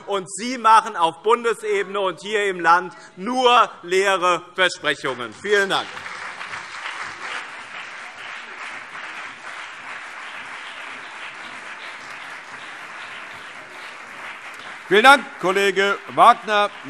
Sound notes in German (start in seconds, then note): 5.0 Beifall BÜNDNIS 90/DIE GRÜNEN und CDU